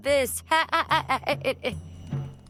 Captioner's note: laughs